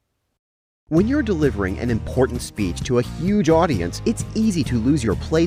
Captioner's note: voice-over